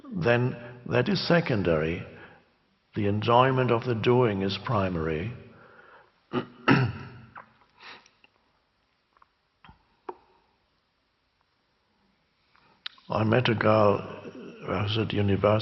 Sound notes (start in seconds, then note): 6.3 clears throat